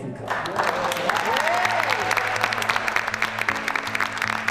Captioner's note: cheers and applause